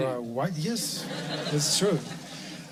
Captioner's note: laughter